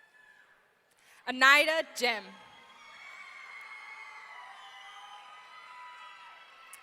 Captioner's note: audience cheering